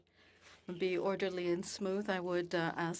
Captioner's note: speaking French